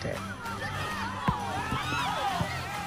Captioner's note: yelling, clamouring